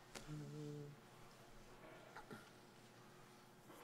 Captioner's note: hums